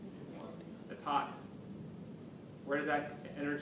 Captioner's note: background comments